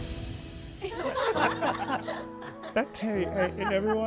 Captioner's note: students laughing